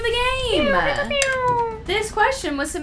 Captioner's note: airhorn noise